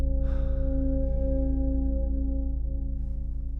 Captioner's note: sighs